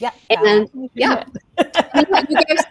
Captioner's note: laughs